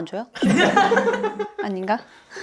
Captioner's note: staff starts laughing suspiciously